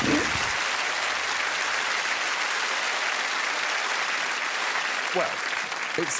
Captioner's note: applause